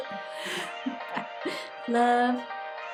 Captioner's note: chuckles